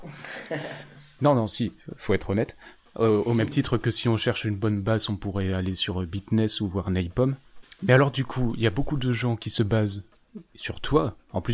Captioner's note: laugh